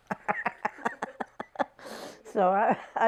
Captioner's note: laughing